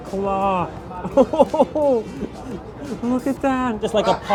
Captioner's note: laughs